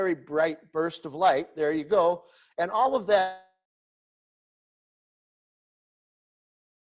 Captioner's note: audio cuts off